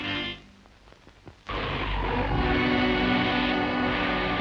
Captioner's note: robot whirs